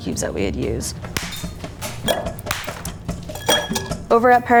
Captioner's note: ice cracking and clinking